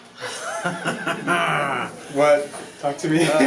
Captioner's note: laughter